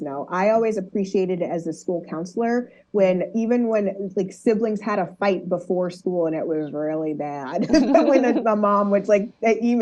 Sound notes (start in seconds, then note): 7.5 laughs